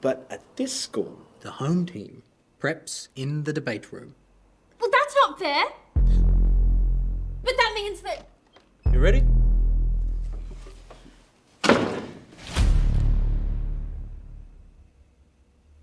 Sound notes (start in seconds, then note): 5.9 tense music; 10.3 door opens; 11.6 door slams; 13.0 dramatic sting